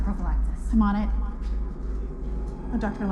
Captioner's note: echoing